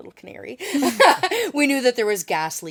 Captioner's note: laughs